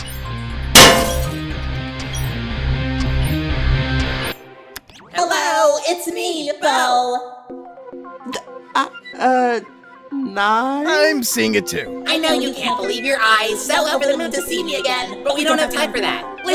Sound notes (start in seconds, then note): 8.3 stammering